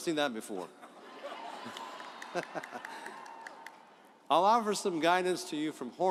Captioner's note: audience laughs